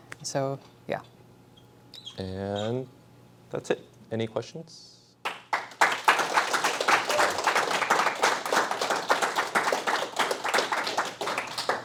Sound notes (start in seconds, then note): 5.2 applause